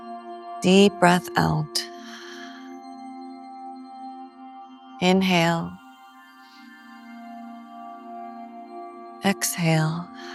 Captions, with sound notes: Deep breath out. [exhales] Inhale. Exhale.